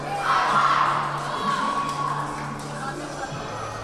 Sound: team cheering

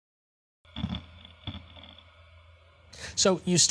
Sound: grinding

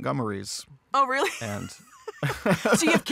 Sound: chuckles

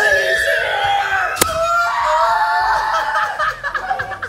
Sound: all laughing

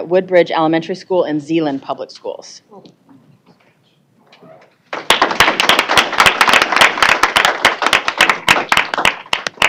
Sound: applause

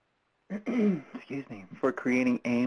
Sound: clears throat

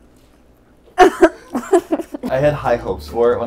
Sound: coughing

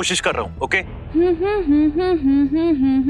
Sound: humming

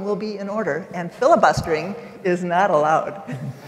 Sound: laughter

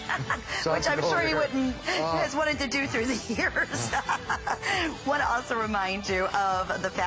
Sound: laughter

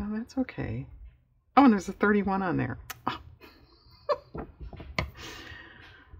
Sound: laughs

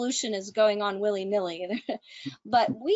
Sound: chuckles

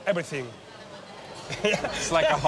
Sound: laughs

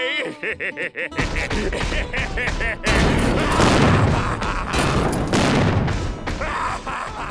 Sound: laughing

